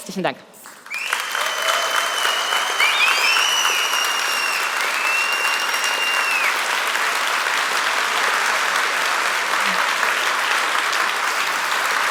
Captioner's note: Applaus